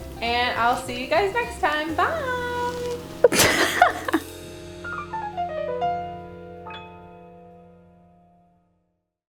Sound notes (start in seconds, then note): 3.2 laughing; 5.0 orchestral music